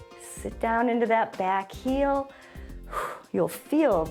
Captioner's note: short exhale